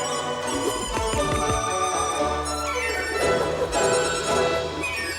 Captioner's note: cleaver whooshing and chopping